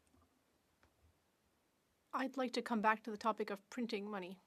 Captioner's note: speaking French